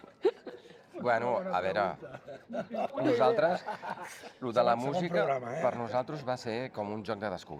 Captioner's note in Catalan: rialles